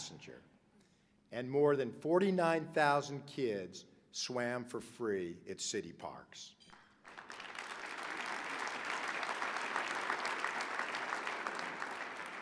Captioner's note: applause